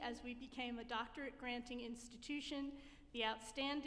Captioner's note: none